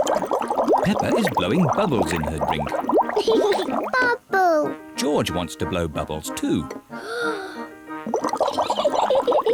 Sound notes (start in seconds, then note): 2.6 laughs; 6.9 takes big breath; 8.6 giggles